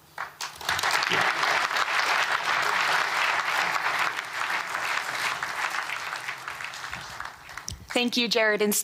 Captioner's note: applause